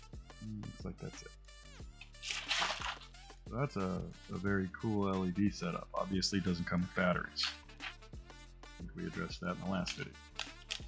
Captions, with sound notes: Looks like that's it. (paper rustling) So that's a very cool LED setup. Obviously doesn't come with batteries. ʕ ʔ ʔ I think we addressed that in the last video.